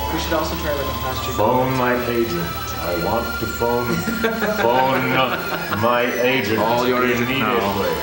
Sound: laughter

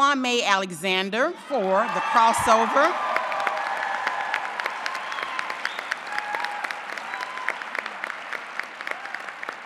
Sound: applause

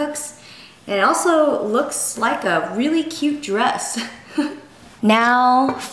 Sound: laughs

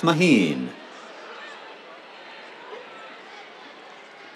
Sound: cheers

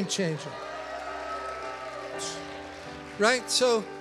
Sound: congregation cheers

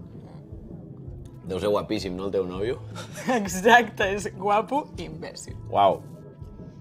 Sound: laughs

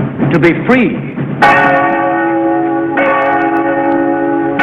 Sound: bell ringing

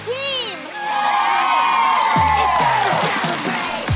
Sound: cheering

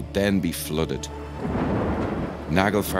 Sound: thunder crashing

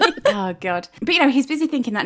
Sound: both laughing

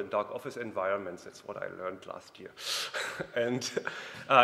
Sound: laughs

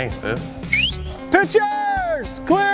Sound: whistles

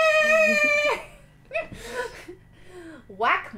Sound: laughter

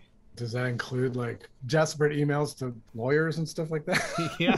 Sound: laughter

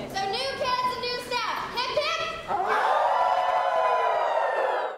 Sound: everyone howls at an assembly

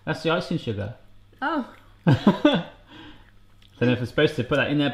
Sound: laughing

